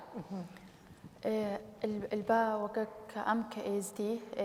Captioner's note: speaking kurdish